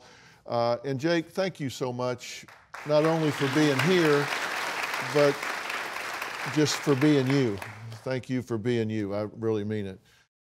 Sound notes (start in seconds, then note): 2.4 applauding